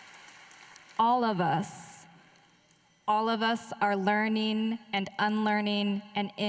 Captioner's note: applause